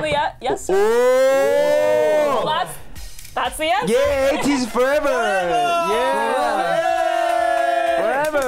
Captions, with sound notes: - Whoa! - Well that's-- that's a yes? (laughs) - Yay ATEEZ forever! - Forever! (exclaims) - Yay!